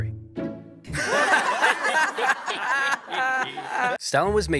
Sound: crowd laughing

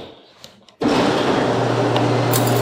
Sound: garage door opens

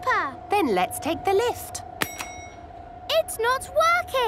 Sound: lift pings

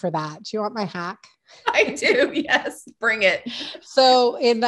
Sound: laughing

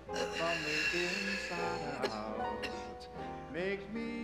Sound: coughing; inhales deeply; wheezing softly

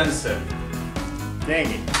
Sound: wallet slaps

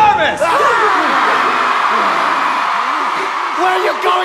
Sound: audience cheers

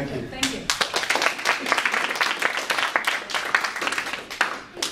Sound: audience applause

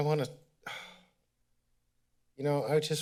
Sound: sigh

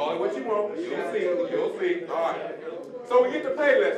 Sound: general chatter

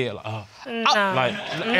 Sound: audience laughs

